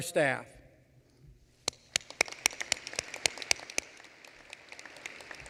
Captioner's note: applause